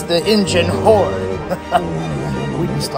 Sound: Albert laughs

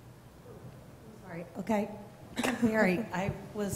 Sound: voiceover

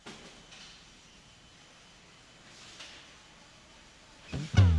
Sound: equipment humming

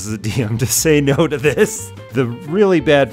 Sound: laughs

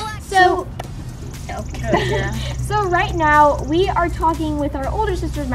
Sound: laughing

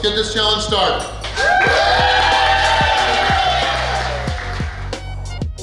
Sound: cheering & Clapping

